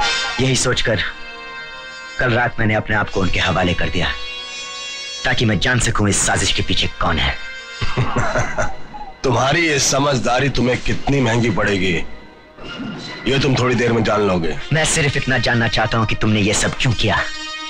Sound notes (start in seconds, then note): 7.7 laughing